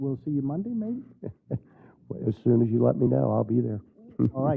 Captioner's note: laugh